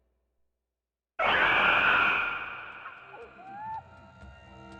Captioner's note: roar